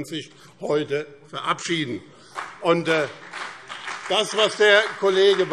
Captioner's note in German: Beifall BÜNDNIS 90/DIE GRÜNEN und CDU